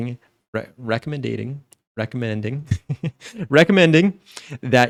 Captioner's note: laughs